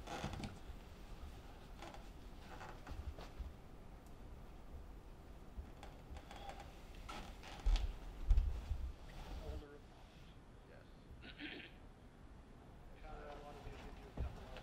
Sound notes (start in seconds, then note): 9.5 office chatter